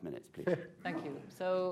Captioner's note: laughter